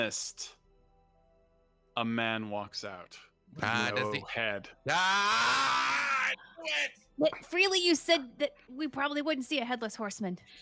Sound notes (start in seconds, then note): 5.0 Freely grunting